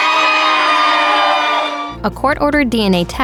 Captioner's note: cheers